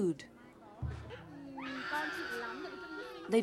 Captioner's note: child crying